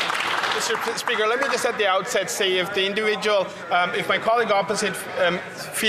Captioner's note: some Applause